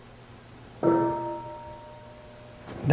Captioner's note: half bell